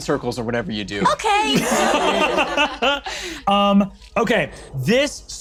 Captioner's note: laughs